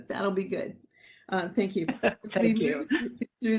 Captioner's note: laughing